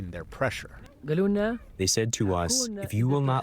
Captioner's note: through translator